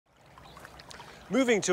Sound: water flowing; birds chirping

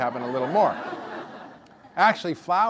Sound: audience laughter

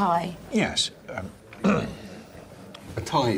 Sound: clears throat

